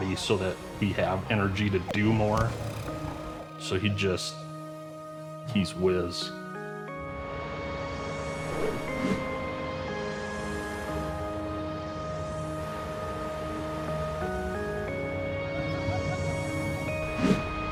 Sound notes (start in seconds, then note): 6.6 light music; 8.4 whooshing; 15.6 visitor laughing; 17.4 light upbeat music; 17.4 whooshing